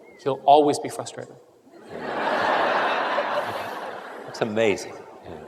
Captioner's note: laugter